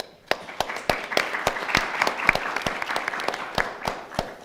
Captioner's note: audience applauds